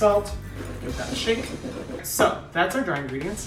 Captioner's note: bowl scrapping